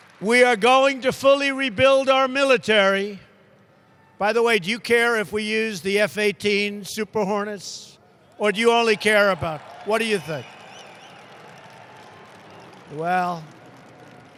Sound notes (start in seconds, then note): 0.0 applause; 8.3 applause